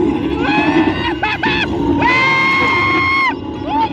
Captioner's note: screaming continues